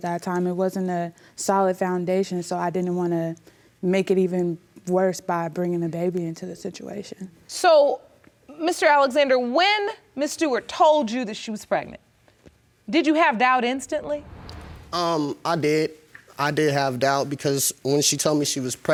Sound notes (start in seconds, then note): none